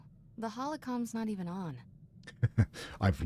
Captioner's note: laughs